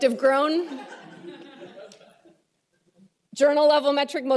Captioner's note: laughter